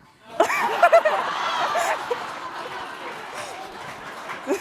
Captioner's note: laughing